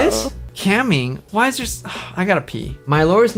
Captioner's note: sighs